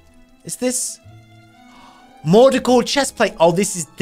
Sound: gasps

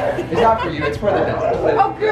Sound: laughs

